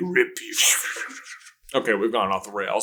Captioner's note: slithery noise